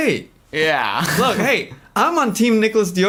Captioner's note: laughs